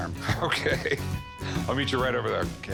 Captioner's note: chuckles